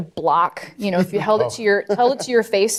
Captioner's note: laughing; laughs